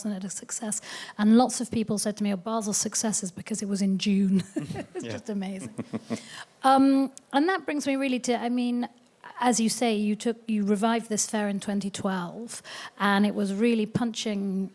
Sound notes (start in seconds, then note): 4.4 chuckling